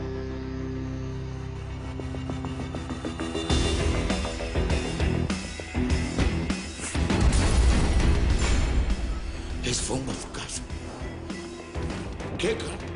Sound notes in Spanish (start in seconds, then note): 7.0 Explosión